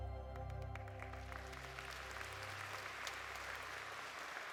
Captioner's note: dramatic music continues; audience applauding